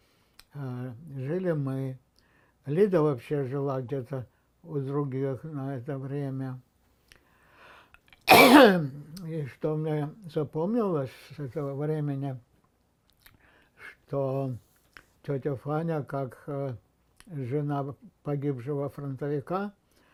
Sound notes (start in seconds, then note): 8.3 coughing